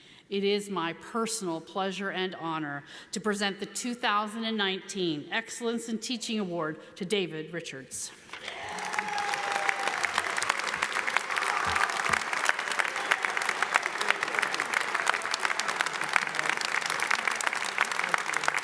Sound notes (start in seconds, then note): 8.3 audience applauds; 8.4 audience cheers